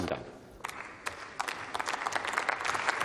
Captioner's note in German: Beifall